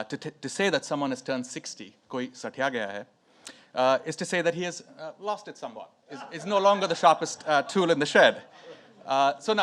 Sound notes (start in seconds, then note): 2.2 speaks in foreign language